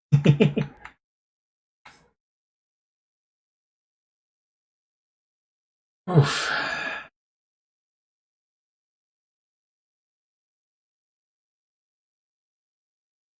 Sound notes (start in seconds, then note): 0.1 chuckles; 6.1 sighing